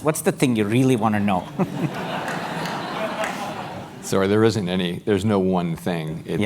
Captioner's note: laugh